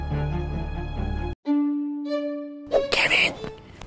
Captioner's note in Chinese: 考生类型 悄悄话